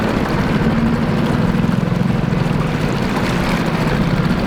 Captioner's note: engine revving